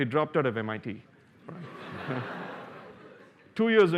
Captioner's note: laughter